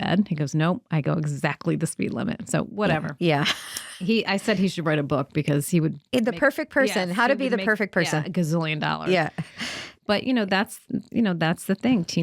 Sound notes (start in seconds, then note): 3.3 laughing